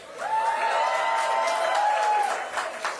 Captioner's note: cheering